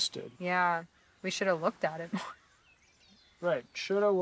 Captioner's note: scoffs